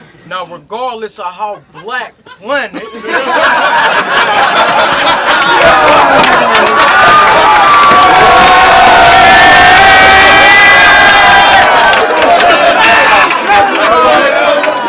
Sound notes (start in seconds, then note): 2.8 crowd Reaction